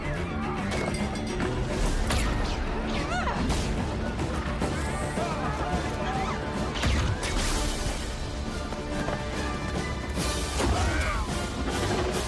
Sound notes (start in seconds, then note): 2.3 yelling and crashing; 8.4 fast-paced dramatic music playing